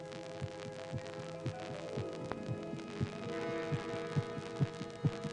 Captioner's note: heart beating rapidly